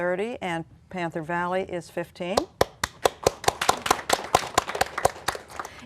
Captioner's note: applause